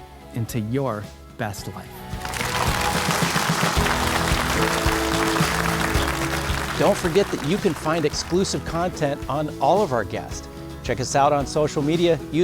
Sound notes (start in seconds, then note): 3.8 audience applauding